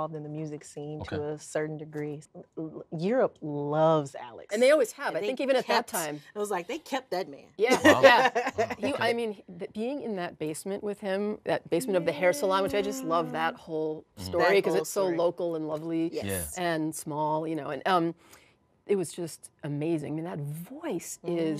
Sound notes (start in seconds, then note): 7.7 laughs